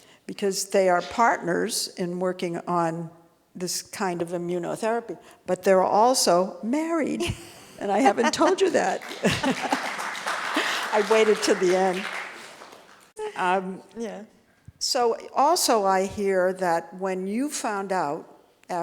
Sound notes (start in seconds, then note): 8.2 audience applauding